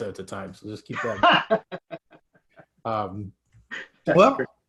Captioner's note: laughing